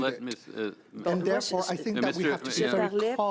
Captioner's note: speaking French